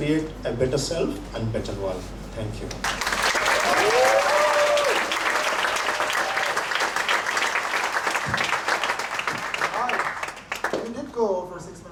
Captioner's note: applause and laugher